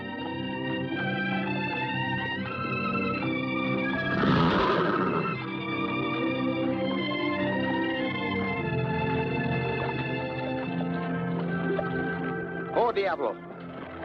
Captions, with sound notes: [ GENTLE MUSIC ] [ HORSE NEIGHING ] Whoa, Diablo.